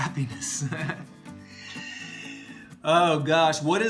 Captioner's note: laughs